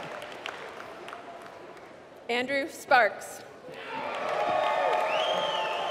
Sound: applause

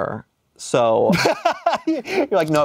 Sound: laughs

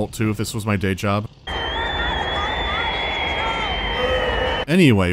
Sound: screaming

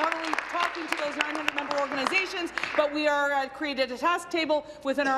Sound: applause

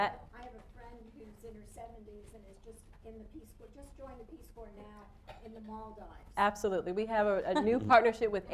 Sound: off mike

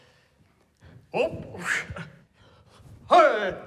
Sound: exhales

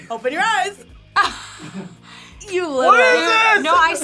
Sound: laughs

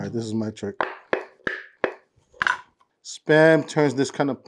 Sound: can popping

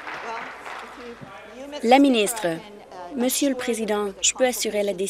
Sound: applause

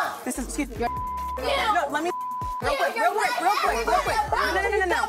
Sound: beep

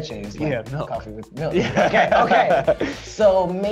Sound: laughs

